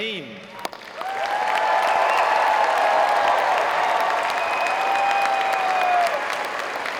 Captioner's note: audience applauding; audience cheering